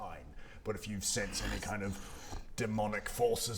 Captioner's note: unsafe growling